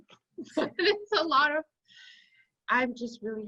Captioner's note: laughs